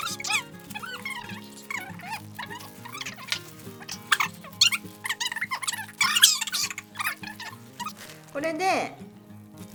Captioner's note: chipmunk noises